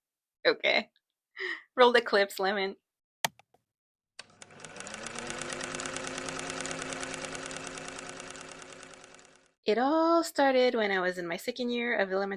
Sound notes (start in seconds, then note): 3.2 click noise; 4.4 projector noise